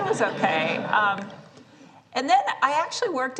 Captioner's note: laughter